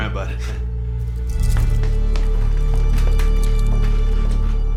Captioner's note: handcuffs jingling; sober music